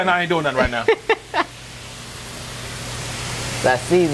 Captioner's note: laughs